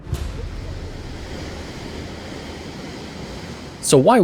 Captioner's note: waves crashing